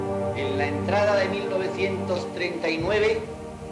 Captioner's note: speaking Spanish